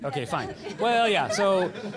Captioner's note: laughter